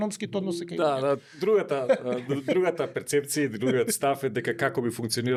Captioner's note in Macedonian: смеа